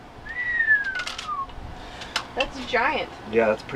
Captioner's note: whistles